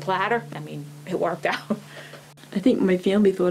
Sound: laughing

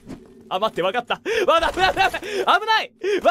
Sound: panic laughter; gasp

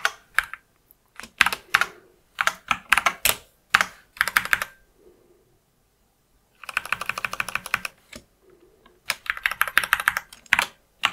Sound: blank Audio

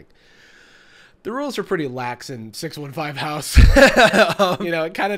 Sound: laughs

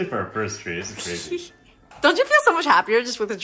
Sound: girlfriend laughs

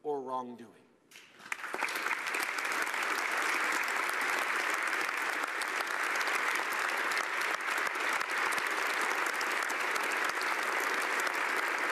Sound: applause

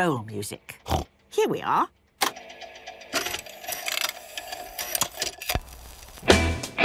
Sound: clicks, whirring

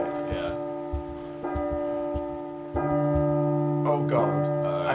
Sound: clock chiming

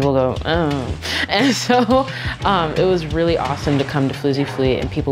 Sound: laughs

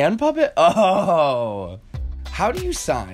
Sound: laughs

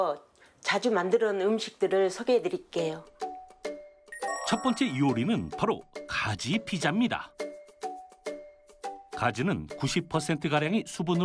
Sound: voiceover

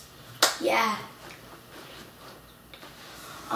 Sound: clapping

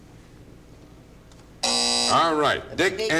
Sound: buzzer

